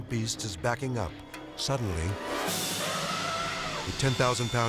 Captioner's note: elephant trumpeting